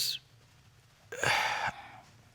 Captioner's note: sighs